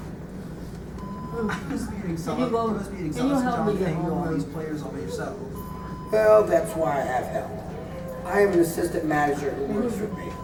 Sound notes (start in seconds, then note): none